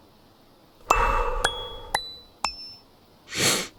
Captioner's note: exhale; ascending pop dings; inhale